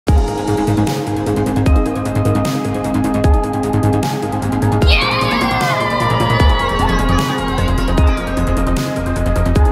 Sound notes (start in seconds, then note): 5.0 cheers